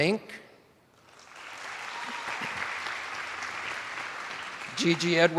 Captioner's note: attendees applauding